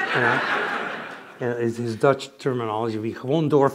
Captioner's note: speaks dutch